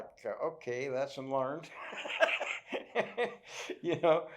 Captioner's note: laughs